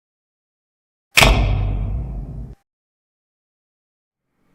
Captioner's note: loud thunk